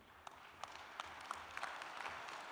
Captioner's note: applause